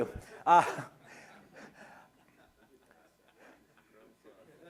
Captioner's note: laughter